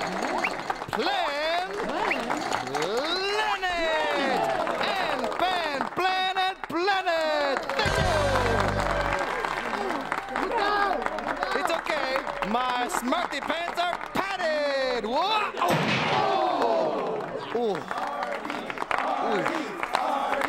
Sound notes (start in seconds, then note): 8.2 applause; 15.6 thud